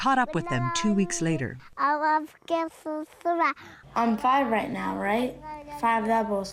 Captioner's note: through translator